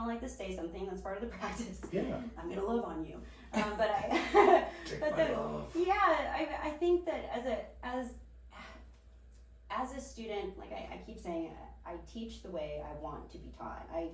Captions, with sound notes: You don't like to say something. That's part of the practice. I'm gonna live on you. - But I-- (laughs) - Take my love off. - Yeah, I think that as a student, like I keep saying, I teach the way I want to be taught.